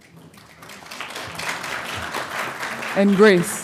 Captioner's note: audience applauding